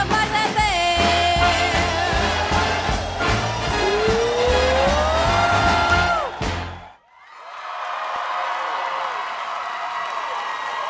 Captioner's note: applause